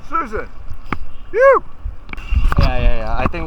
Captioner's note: shouting